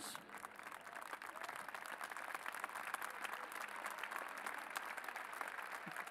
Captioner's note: applause